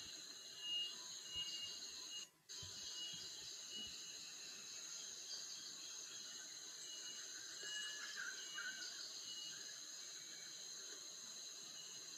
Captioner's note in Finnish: taustaääni Ugandan metsästä